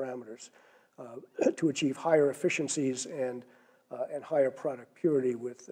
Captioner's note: cough